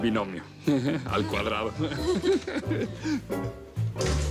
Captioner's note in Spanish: Risas